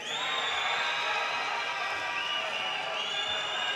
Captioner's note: audience cheers